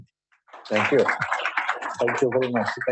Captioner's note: applause